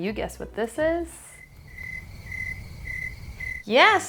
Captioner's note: crickets chirping